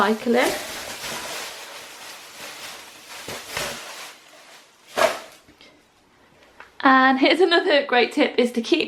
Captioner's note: sound of bin bag rustling